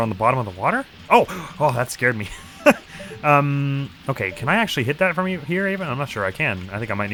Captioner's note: gasps